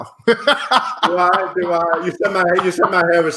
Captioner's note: laughing